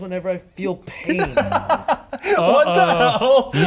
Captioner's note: laughing